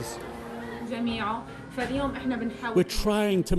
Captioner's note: speaks in foreign language